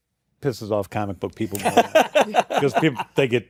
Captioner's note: laughter